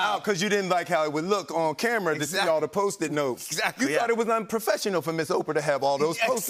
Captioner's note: none